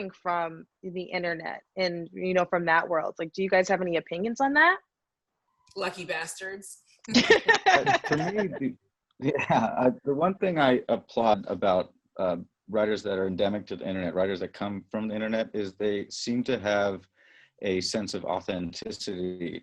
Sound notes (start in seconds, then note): 7.1 all chuckling